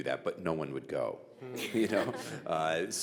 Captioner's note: audience and panel laughing